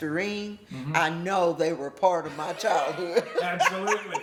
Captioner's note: laughter